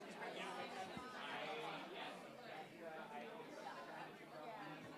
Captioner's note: audience chattering